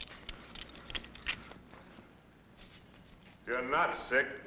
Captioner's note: metal clicking